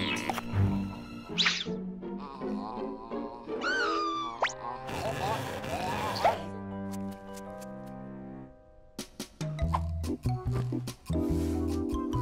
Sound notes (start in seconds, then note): 2.1 groaning; 3.6 screaming; 5.6 gagging